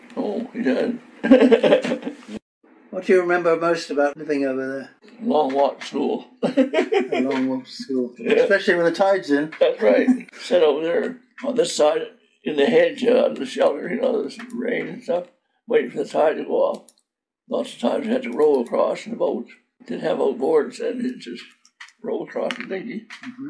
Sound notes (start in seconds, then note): 1.2 laughs; 6.3 laughs